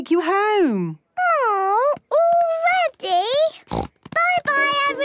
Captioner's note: snort